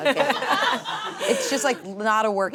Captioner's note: audience laughs